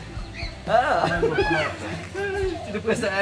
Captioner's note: laugh